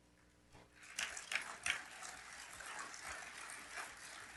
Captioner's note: audience applauds